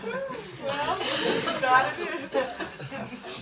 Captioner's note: laughter